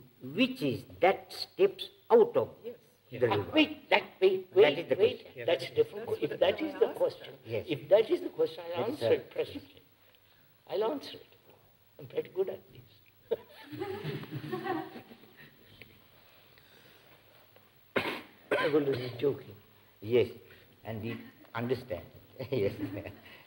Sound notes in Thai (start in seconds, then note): 13.3 หัวเราะ; 18.5 เสียงหัวเราะ